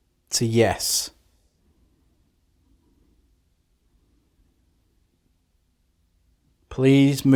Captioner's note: silence